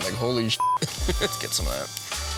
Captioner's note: laughs